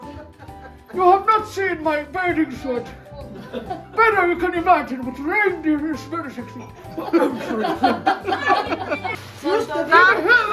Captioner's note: laughter